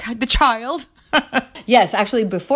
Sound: chuckles

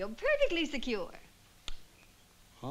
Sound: smack

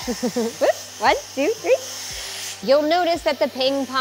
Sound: machine whirring

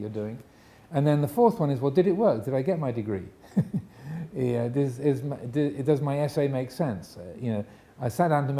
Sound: chuckles

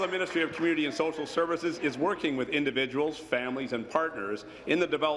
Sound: applause

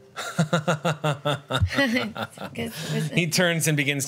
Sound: laughs

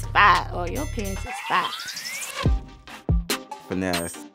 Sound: bell rings

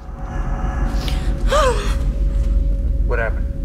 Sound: audible gasp

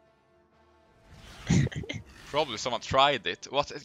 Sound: haha

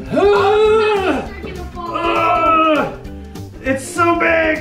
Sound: grunting

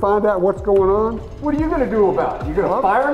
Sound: voiceover

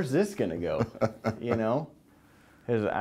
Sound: laughter

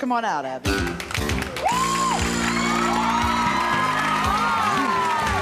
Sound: applauding and cheering

